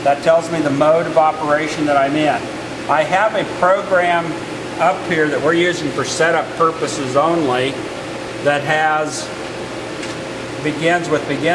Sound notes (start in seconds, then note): none